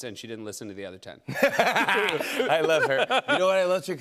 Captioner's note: laughs